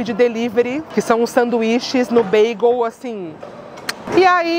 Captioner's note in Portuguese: beijo